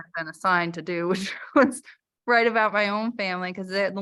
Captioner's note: laughter